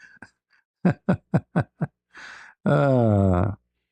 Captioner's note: ketawa